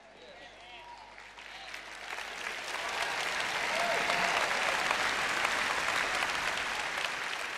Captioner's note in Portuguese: audiência aplaude